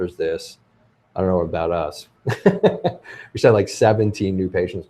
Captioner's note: laughs